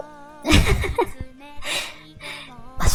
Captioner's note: laugh